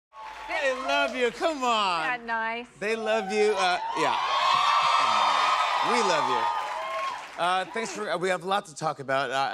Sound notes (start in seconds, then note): 2.8 cheers and applause